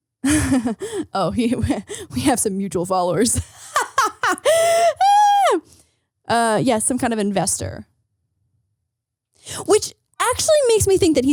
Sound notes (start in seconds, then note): 0.2 laughing